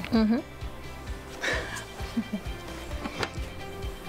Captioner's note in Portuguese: risos